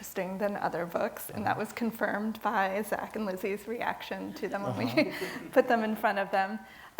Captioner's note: laugh